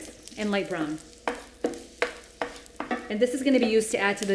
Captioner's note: stirring garlic and butter